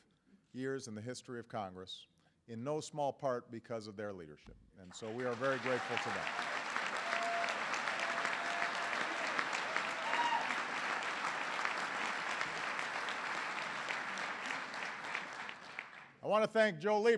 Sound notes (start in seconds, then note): 9.9 applause